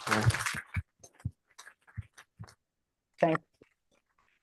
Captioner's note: applause